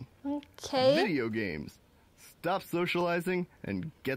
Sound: male Voice

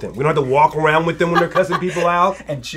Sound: laughs

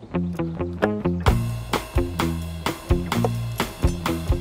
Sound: knife thumping

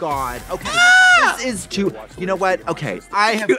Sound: Trixie yowls

